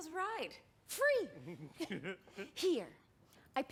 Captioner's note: chuckles